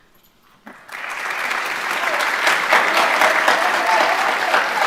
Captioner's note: audience applauds